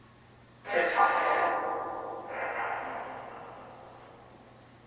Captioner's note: spirit box echoes